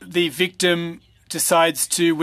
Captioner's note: speaking French